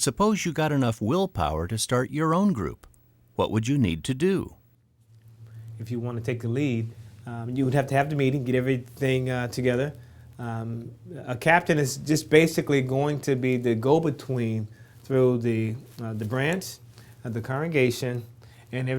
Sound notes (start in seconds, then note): none